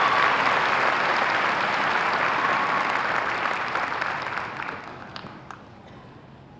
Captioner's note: applause